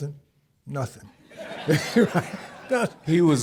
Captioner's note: audience laughing